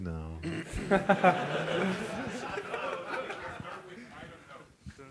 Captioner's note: laughter